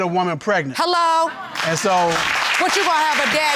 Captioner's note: audience applauding